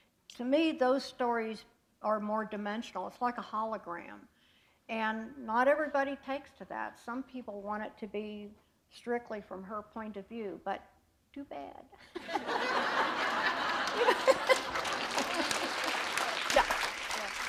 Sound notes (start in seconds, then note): 12.0 laughter; 13.1 applause